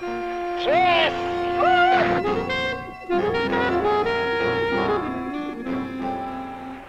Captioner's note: upbeat instrumental music; man screaming